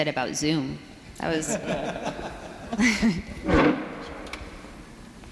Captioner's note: audience laughs